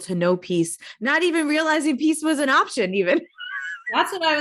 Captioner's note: chuckling